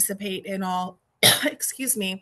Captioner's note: coughs